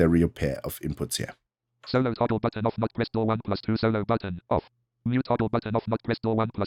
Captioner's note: automated voice